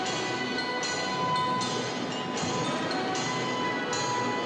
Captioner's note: none